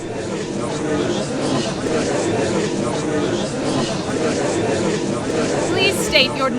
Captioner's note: gallery chattering